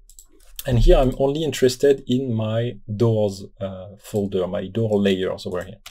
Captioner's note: Doors